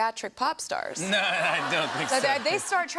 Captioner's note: laughter